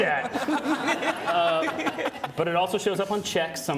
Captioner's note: audience laughing